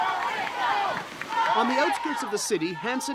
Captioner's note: crowd cheering